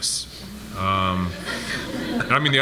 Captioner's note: audience laughs